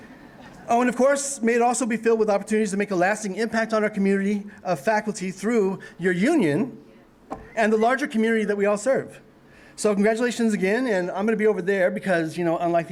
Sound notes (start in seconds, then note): none